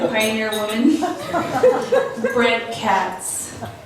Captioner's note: laughs